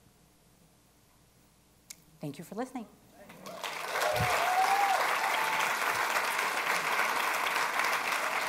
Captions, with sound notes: Thank you for listening. (attendees applauding)